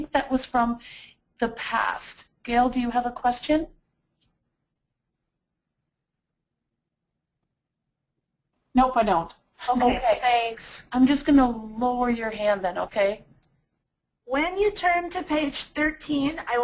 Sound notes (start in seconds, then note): 8.8 voiceover